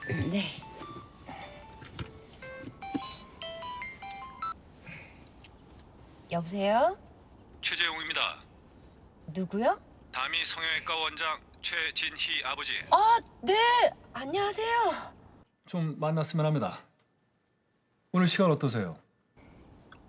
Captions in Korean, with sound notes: -네. -(휴대전화벨 소리) -여보세요? -최재웅입니다. -누구요? -다미성형외과 원장 최진희 아버지. -아, 네. 안녕하세요. -좀 만났으면 합니다. 오늘 시간 어떠세요?